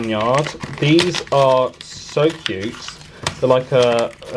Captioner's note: paper ripping